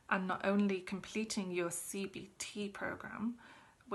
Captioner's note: none